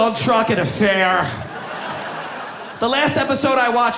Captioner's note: audience laughing